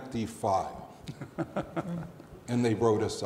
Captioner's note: laughing